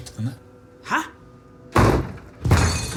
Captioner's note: pounding